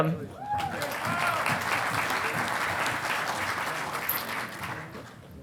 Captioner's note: audience applauding